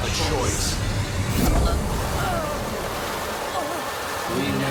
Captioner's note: grunting